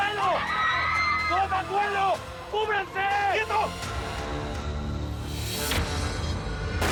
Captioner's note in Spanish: gritos